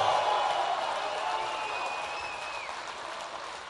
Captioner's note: applause